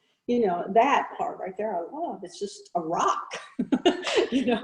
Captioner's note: laughing